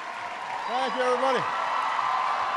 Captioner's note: applause